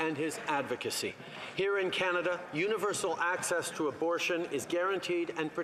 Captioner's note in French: voix de l'interprète